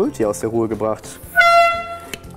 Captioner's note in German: Hoher Ton